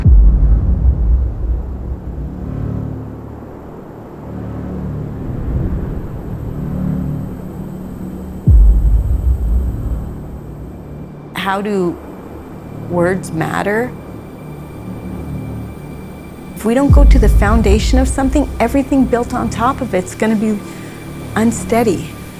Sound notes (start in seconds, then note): 0.0 drum beats; 3.2 wind blows; 4.1 dramatic music; 8.4 drum beats